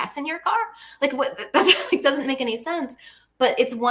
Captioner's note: laughs